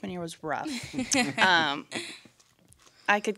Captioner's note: laughing